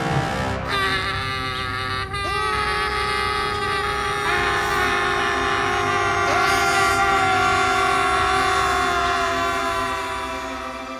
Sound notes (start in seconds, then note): 0.5 screaming; 6.2 everybody screaming